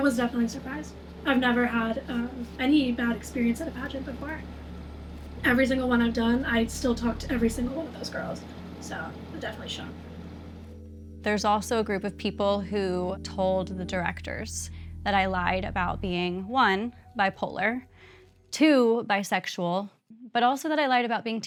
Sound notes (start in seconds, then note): none